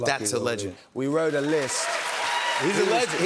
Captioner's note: cheers and applause